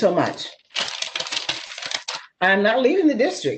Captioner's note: paper shuffling